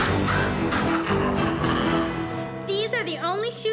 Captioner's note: cackles